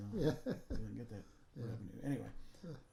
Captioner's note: laughing